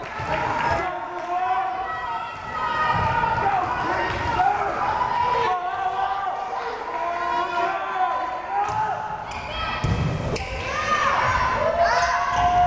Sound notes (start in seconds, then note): 1.0 crowd cheering